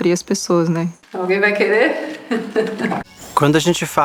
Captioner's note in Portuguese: risos